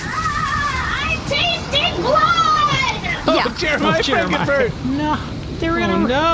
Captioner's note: screaming